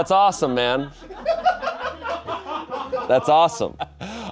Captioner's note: audience laughing